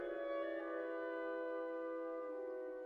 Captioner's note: none